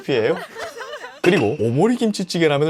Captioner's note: laughing out loud